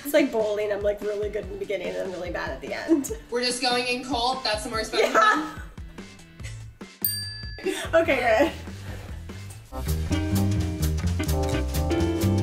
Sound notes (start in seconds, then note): 7.0 bell rings; 9.7 jazz music